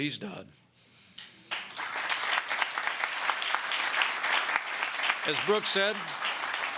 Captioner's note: applause